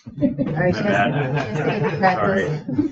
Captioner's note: members chattering